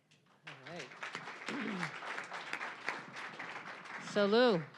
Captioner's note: applause